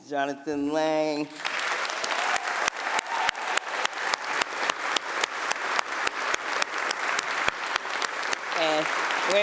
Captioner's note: applause